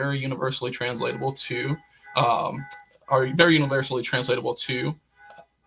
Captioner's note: car alarm sounds in the background